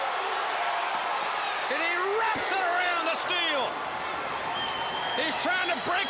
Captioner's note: crowd cheering